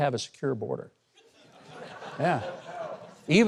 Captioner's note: audience laughs